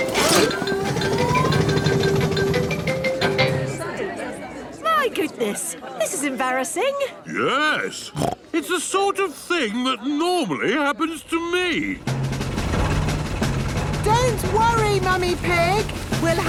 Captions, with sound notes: (all murmuring) - My goodness, this is embarrassing. - Yes! (snorts) It's the sort of thing that normally happens to me. - Don't worry, Mummy Pig!